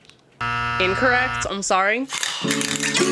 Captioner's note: buzzer sounds